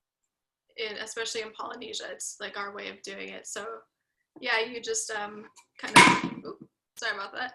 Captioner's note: loud bang